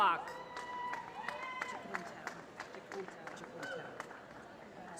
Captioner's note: applause